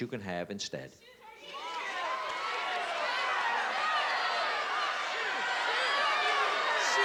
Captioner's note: cheering